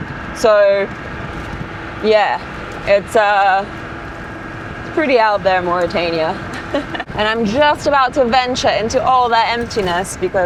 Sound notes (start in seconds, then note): 6.5 laughs happily